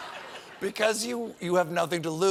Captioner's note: laughter